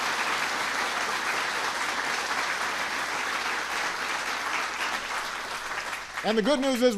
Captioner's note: applause